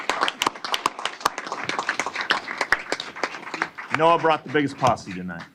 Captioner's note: applause